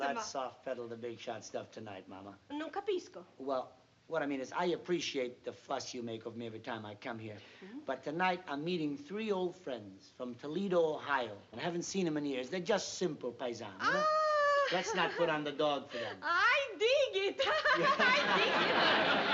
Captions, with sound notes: Let's soft-pedal the big shot stuff tonight, Mama. [NON-ENGLISH] Well, what I mean is I appreciate the fuss you make of me every time I come here. But tonight, I'm meeting three old friends from Toledo, Ohio. I haven't seen them in years. They're just simple paisano, you know. Oh! Let's not put on the dog for them. I dig it. [LAUGHS] I dig it.